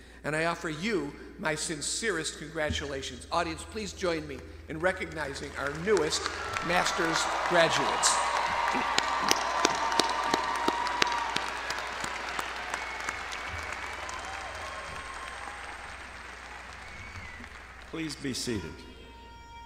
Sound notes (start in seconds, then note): 8.3 all clapping; 8.3 audience cheering